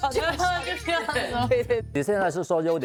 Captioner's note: laughs